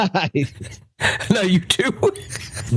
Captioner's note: laughing